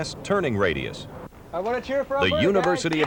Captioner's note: cheers